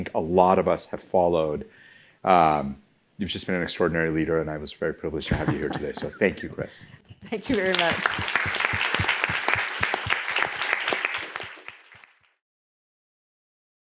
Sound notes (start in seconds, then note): 7.4 extended applause